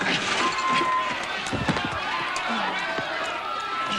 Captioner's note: women screaming